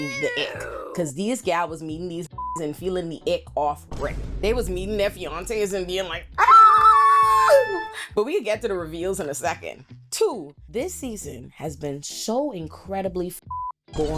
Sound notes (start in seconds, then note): 2.4 beep; 6.4 screaming; 13.5 beep